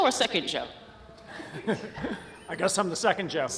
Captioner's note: laughs